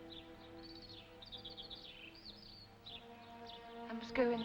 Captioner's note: birds chirping; sentimental music